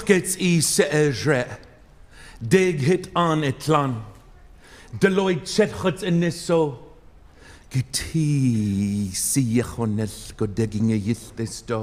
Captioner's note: speaking native language